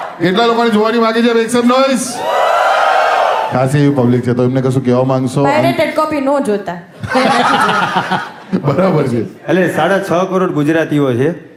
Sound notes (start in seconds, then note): 2.2 crowd applauding